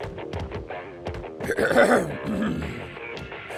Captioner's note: clears throat